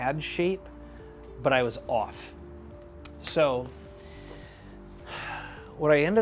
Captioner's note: sighs